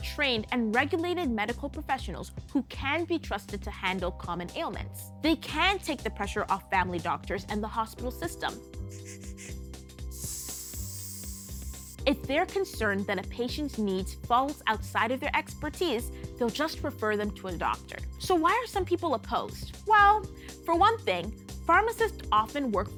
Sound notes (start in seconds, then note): 10.0 puffing; 10.1 hissing